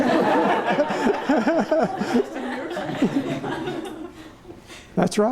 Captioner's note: laughter